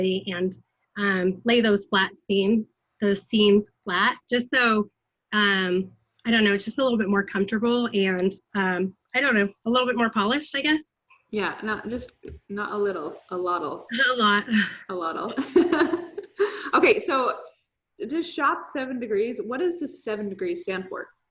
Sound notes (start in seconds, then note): 15.3 chuckles